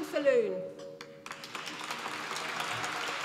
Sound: applause

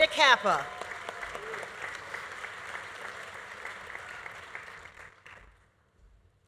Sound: audience applauding; audience cheering

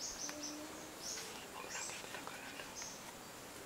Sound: whispers

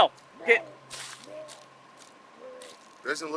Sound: Darnell retching

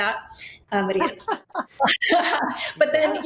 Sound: laughing

